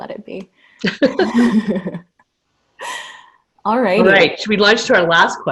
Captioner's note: laughter